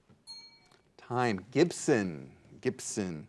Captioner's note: bell dings